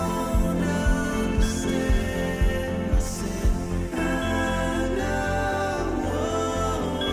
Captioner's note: cell phone rings